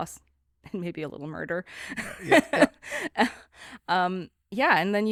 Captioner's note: both laughing